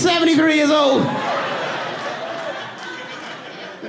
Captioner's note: audience laughs